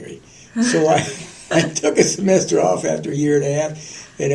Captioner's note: laughter